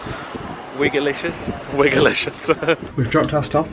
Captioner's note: chuckles